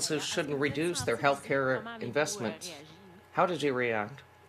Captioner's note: speaking French